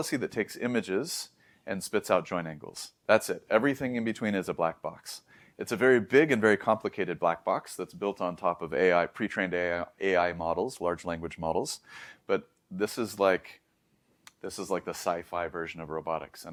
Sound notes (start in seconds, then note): 11.8 inhales; 14.2 lips smack